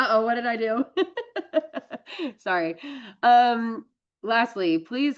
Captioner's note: laughs